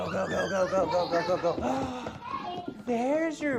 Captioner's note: gasps